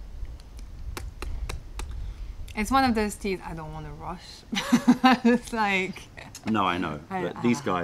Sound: laughter

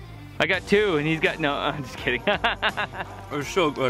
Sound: laughs

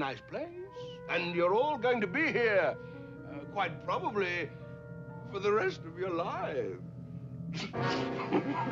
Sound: laughs

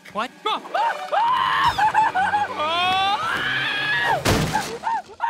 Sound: screaming

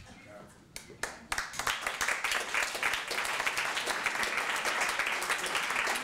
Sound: applause

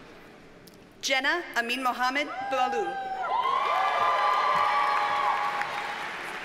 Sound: audience cheers and applauds

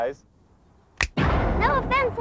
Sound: loud short bang

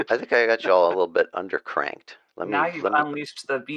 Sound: laughter

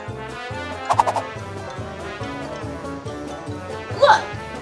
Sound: air whipping

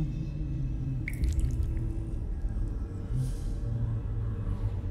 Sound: blood splashing

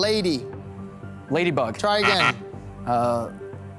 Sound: buzzer sounding

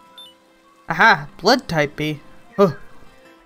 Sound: fake startled sound

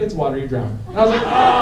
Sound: laughter

